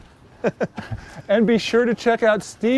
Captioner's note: laughs